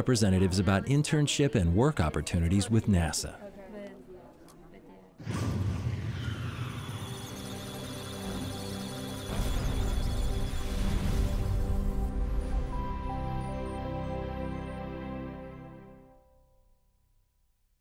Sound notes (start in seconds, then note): 6.8 electronic sounds of data